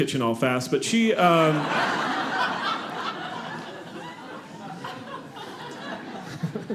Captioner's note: audience laughing